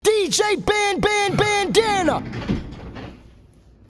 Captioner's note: dj khaled voice